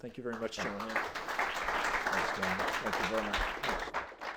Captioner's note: audience applauds